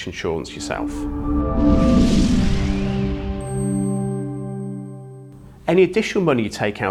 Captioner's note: gentle music; graphics whooshing